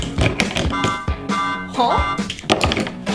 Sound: alarm beeping

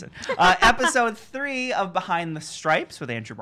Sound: laughing

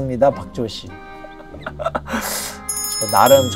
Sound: laughing away

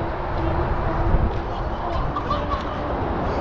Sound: laughs

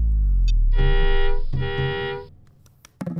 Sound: car honking

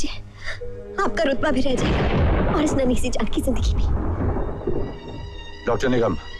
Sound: thunder crashing

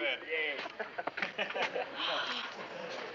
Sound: soldiers laughing

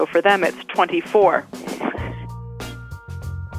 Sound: laughs

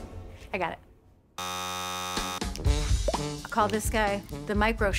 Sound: alarm buzzes

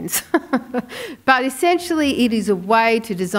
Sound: laughing

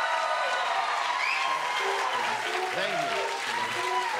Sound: cheers and applause

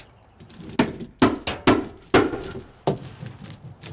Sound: hammers pound

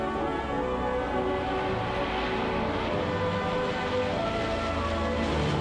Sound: plane engine roaring

